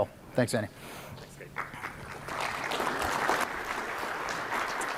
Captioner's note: applause